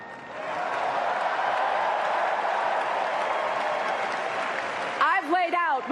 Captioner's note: cheers and applause